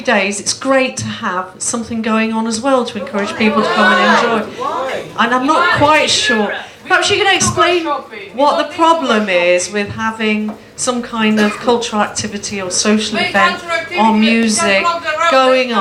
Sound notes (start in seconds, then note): 5.5 more audience disagreement